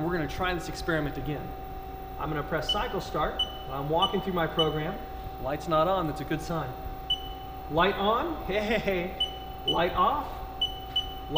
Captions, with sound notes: and we're gonna try this experiment again. I'm gonna press cycle start, (beeping) and I'm walking through my program. Light's not on, that's a good sign. (beep) Light on, hey. (beeping) Light off. (beeping)